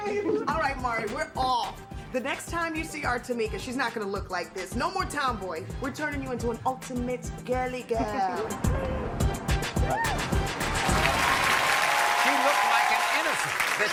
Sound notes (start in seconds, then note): 10.5 audience cheering and applauding